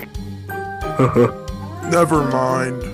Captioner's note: Security Guard sips VERY loudly; security Guard laughs awkwardly